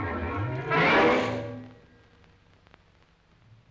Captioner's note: lion growls